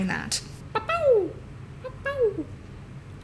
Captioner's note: Blue's Clues noises